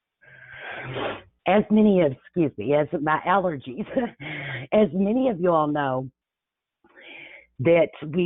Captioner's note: sniffles